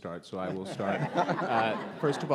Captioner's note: audience laughs